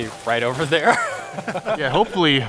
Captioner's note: both laugh